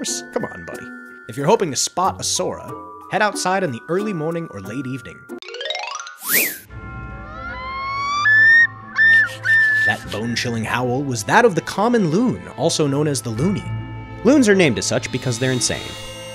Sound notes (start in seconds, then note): 6.1 chime, whistle; 7.2 howling shriek